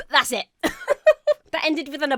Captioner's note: laughs